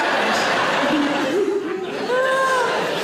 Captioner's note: audience laughing